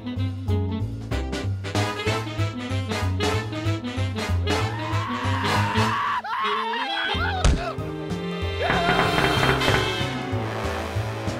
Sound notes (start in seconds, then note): 4.6 shrieking; 8.7 pounding on glass